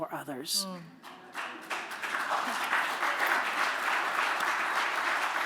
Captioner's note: applause